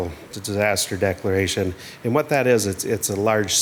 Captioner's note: water splashing